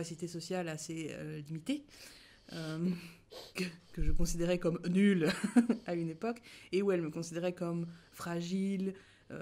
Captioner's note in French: rires